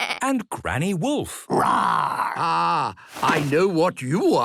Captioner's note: bleating; roaring